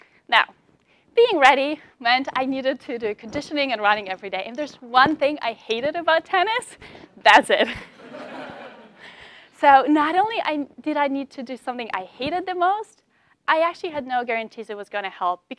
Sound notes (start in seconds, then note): 7.8 laugh